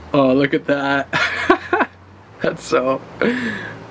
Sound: laughs

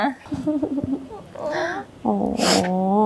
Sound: Eva cries

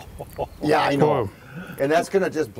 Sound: laughing

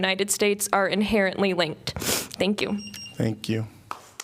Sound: applause

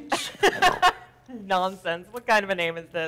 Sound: Professor lightly laughs

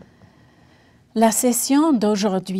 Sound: speaking French

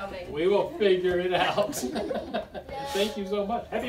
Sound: laughs

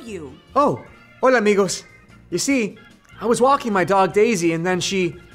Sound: speaking spanish

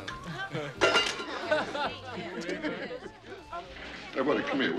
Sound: people exclaiming

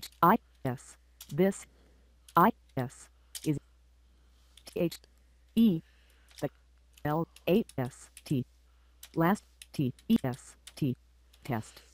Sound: sound of typing and Jaws reading

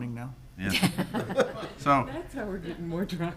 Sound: people laughing

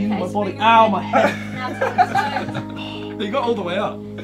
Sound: group laughing

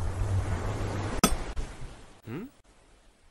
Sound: ocean sounds; pickaxe hits stone

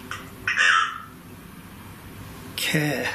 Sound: device speaks

